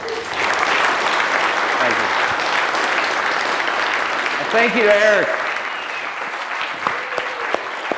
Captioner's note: applause